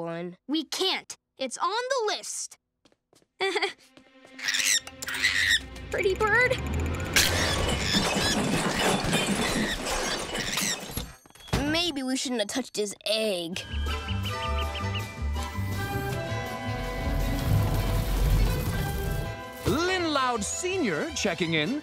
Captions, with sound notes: We can't. It's on the list. [stammering] [screeching] Pretty bird. [screeching] Maybe we shouldn't have touched his egg. Lynn Loud Sr. checking in.